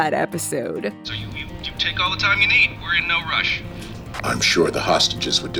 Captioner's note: Daniel over the radio